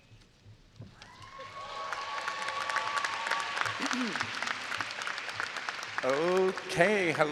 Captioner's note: audience cheering and applauding